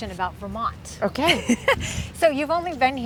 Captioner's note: host laughs